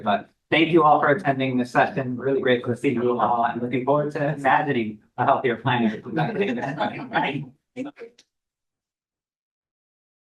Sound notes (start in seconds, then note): 5.4 all laugh